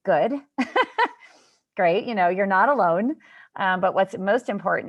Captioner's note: laughter